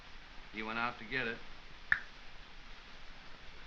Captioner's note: clicks tongue